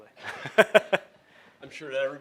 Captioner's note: laughs